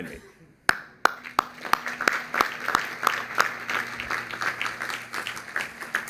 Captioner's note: applause